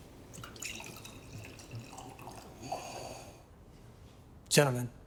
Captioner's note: wine gurgling